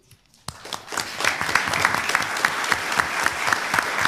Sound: applause

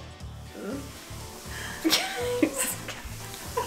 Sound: laughing

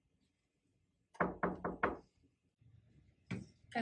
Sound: knock on the door

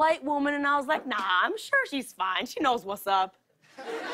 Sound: laughter

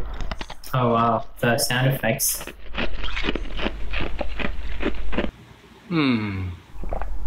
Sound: hand crunching

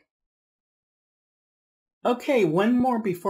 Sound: silence

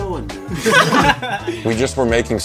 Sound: laughs

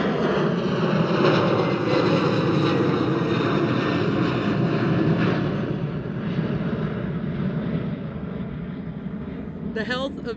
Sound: airplane engine

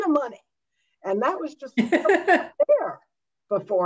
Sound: laughter drowns speaker

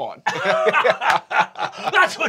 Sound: guys laughing

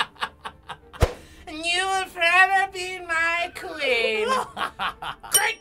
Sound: laughs heartily; medieval voice; laughs

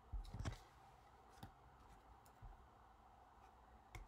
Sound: papers rustling

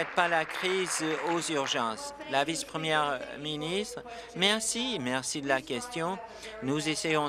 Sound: applause

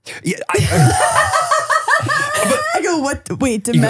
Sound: all laughing

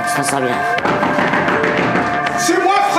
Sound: knock, knock, knock

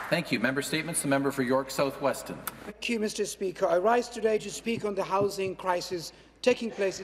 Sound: some Applause

